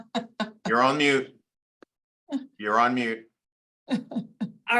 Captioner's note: laughing